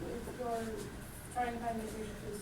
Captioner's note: voiceover